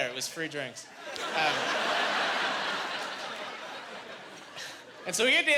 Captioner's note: laughing